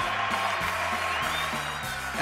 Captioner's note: crowd cheers